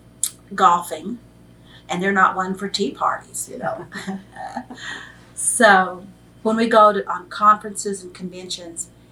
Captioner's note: laughs